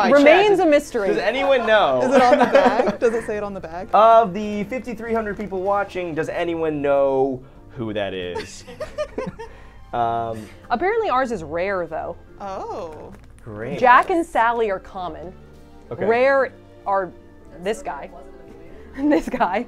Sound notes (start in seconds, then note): 8.3 all laughing